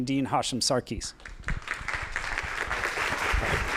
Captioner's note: applause